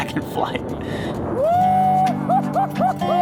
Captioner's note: laughs